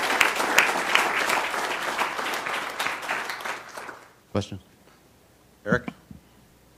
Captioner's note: applause